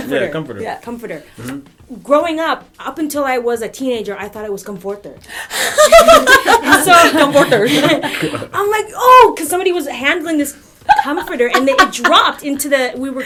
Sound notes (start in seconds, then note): 5.6 laughter